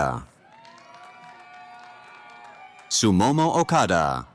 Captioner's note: cheering